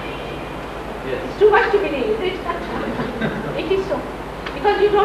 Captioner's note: laughs, laughter